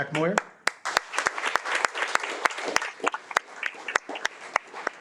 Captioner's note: audience applauding